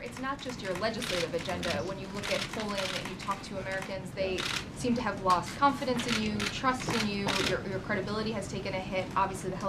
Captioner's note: off mic